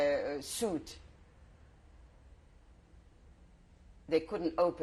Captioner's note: pauses for 3 seconds